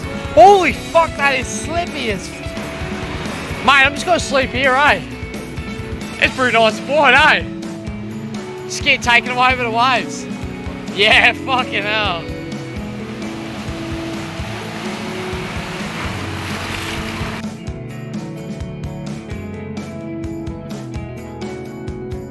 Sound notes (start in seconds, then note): 4.8 in an Aussie accent; 7.1 aussie accent; 10.0 aussie accent